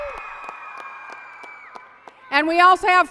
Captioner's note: applause and cheering